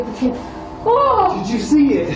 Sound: gasps

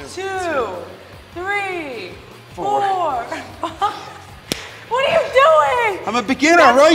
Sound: laugh

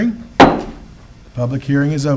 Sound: gavel taps

